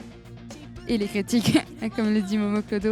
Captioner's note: laugh